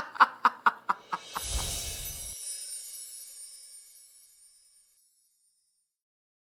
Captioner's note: air whooshing